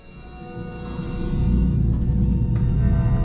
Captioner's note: electric whirring; tense music